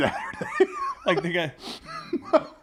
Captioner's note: laugh